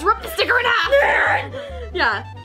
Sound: screaming

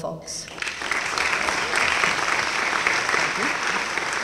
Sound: applause

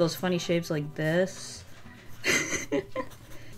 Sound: laughs

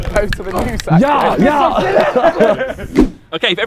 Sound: men laughing

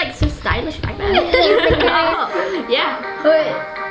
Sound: laughing

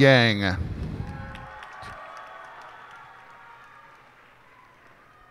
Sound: cheers and applause

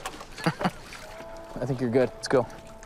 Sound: laughs

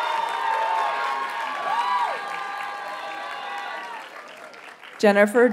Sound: audience cheers and applauds

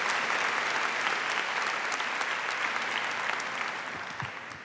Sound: applause

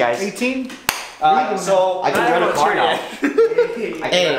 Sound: everyone talking

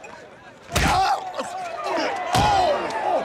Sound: fist punching face; fist punching body; groaning; screaming

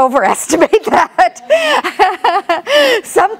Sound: laughs

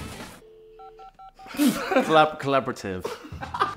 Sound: phone beeping; person laughs

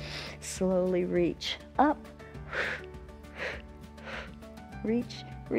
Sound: short exhales

